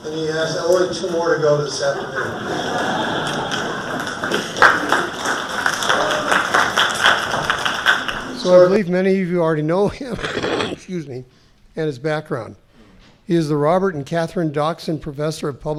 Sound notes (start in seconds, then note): 1.8 laughing; 4.3 applauding; 9.8 coughs